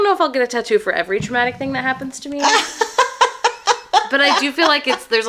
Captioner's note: laughs